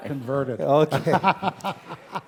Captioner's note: laugh